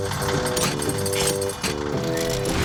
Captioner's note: whirring